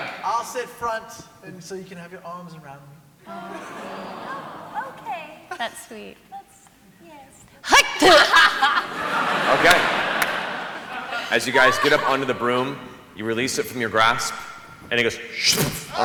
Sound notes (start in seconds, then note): 7.5 hacking spit; 15.4 splat